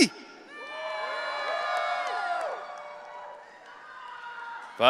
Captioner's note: audience cheering